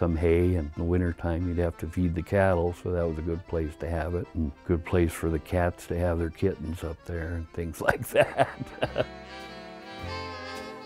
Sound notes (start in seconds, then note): 7.8 laughs